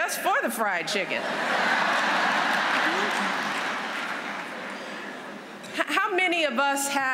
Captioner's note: laughter